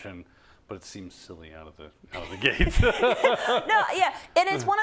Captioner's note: laugh